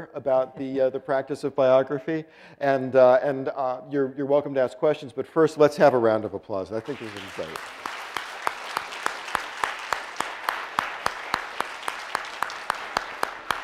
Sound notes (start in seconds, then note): 6.8 applause